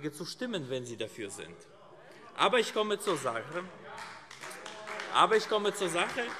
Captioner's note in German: Beifall AfD